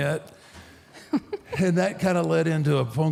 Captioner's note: Michelle laughs